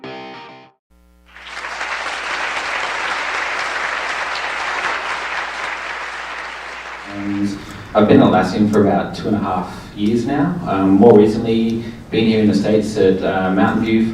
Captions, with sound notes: (audience clapping) - I've been Atlassian for about two and a half years now. More recently, been here in the States at Mountain View